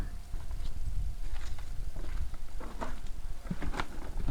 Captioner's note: walking